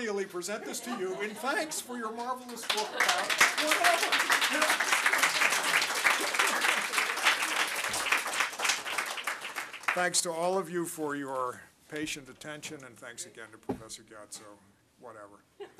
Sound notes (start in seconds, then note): 2.2 applause